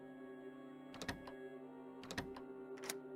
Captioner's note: lock Clicks